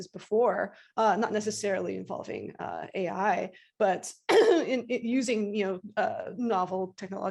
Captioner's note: clears throat